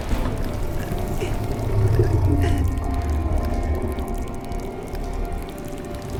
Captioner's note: grumbling